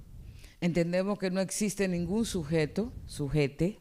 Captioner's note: speaking spanish